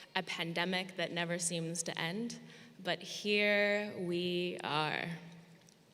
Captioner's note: none